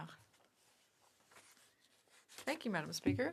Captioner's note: speaking French